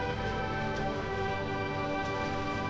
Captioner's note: water splashing